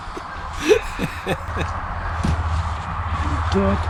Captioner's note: laughter